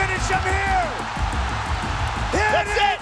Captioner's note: crowd cheering